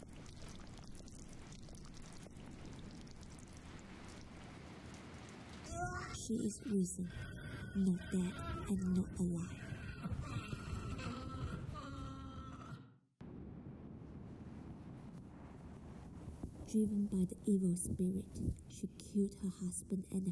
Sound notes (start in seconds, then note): 10.3 corpse moaning